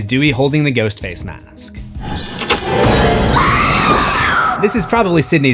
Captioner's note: screams